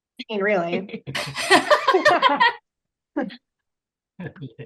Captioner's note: group laughs